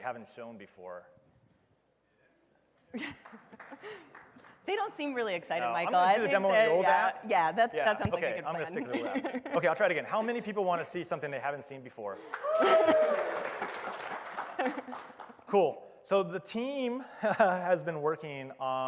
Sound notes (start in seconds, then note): 12.2 applause